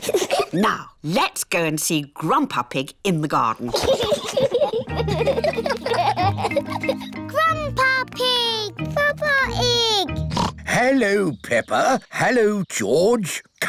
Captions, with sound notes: Now, let's go and see Grandpa Pig in the garden. (BOTH LAUGHING) -Grandpa Pig! -Papa Ig! (OINKS) Hello, Peppa. Hello, George.